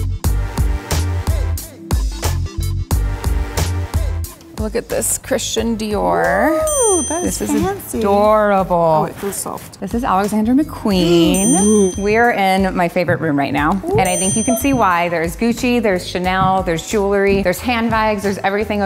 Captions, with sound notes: - Look at this Christian Dior. - Ooh, that is fancy. - This is adorable. - Ooh, it feels soft. - This is Alexander McQueen. - (gasps) Ooh. - We're in my favorite room right now-- - Ooh. - And I think you can see why. There is Gucci, there's Chanel, there's jewelry, there's handbags, there's everything